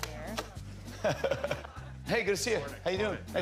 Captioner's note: laughs